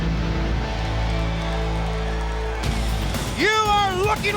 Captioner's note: audience applauds and cheers